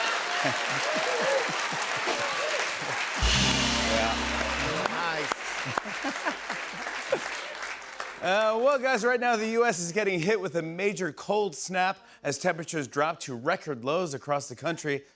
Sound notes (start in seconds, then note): 0.1 laughs; 5.8 laughs